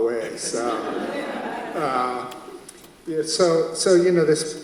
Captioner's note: audience laughs